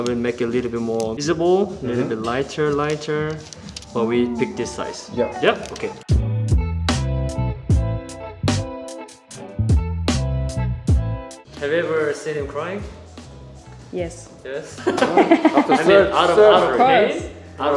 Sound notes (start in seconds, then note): 7.1 lo-fi music; 14.8 laughing